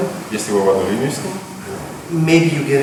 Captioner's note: speaking in a foreign language